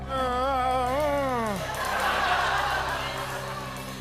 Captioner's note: laughter